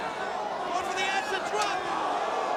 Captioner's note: crowd vocalizing; crowd exclaiming